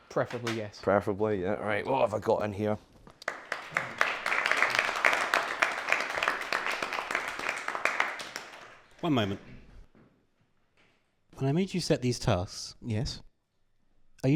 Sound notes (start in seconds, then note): 3.2 applause